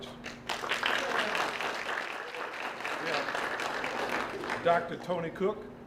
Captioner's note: applause